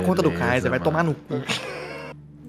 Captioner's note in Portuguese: risos